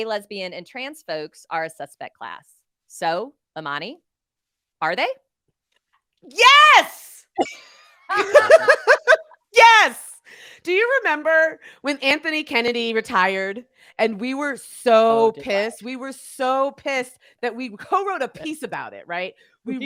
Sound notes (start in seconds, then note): 7.4 laughing heartily